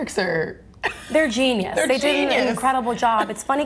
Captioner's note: laughs